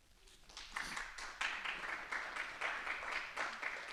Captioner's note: clapping